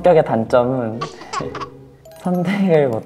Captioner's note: teehee